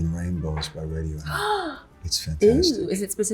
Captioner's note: Zoe gasping